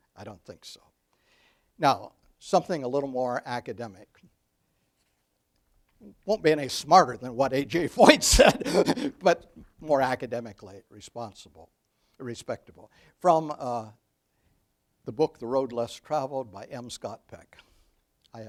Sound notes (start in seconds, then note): 8.0 laughs